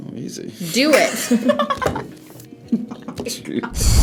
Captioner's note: both laugh